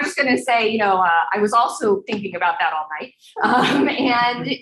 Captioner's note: laughing